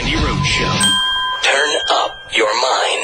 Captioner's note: voiceover